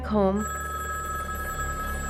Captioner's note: ringing